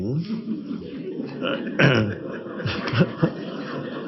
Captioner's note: audience laughs